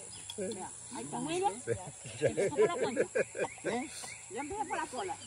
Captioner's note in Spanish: risas